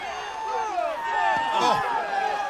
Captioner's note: crowd chatter